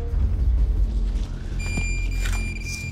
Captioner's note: beeping